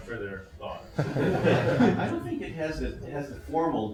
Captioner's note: laughter